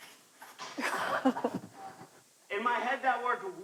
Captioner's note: chuckles